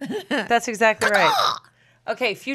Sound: mimics crow caw

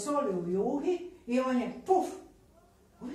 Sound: poof

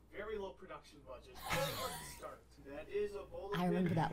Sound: laughs

